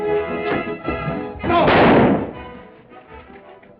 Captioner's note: gunshot